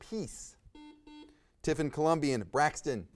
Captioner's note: buzzer buzzes